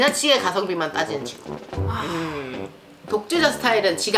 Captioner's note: sigh